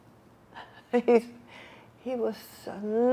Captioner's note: laughing